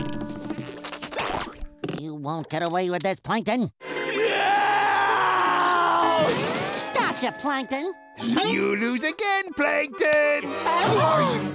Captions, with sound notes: You won't get away with this, Plankton! [screaming] Gotcha, Plankton! You lose again, Plankton. [gasping]